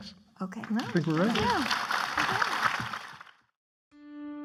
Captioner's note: clapping